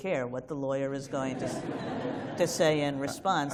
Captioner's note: laughter